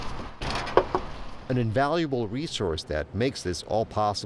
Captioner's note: knocking